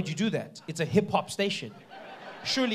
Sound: audience laughing

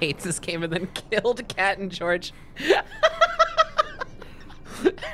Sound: laughing

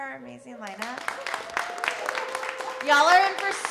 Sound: audience applauding

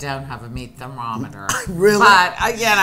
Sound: laughing

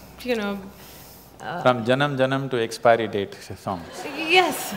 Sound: laughter

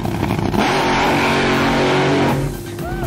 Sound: engine revs loudly

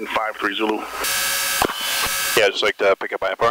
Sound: plane engine buzzing

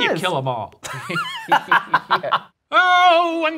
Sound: laughing

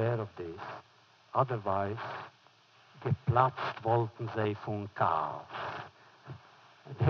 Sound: foreign language

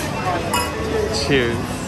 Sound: glasses chink

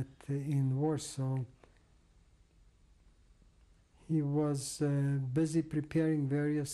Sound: pauses for 3 seconds

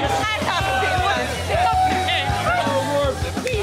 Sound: crowd cheering

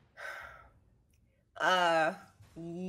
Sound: Fairuza sighs

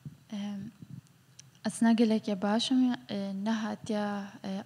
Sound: speaks foreign language

